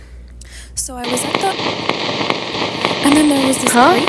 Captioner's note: static noise